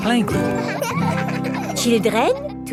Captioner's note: children laughing